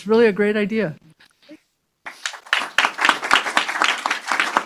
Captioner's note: applause